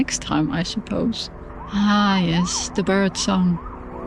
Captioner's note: siren in the distance